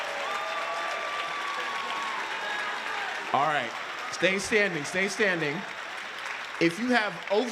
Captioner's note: applause